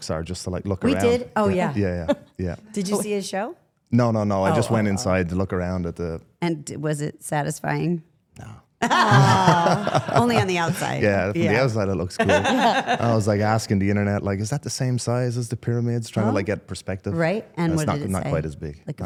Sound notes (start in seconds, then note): 8.8 participants laugh